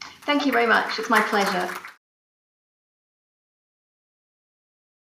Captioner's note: members clap